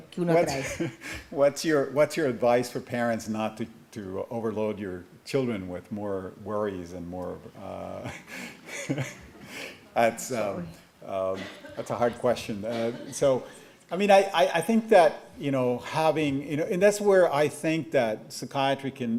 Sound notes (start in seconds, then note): 11.1 chuckles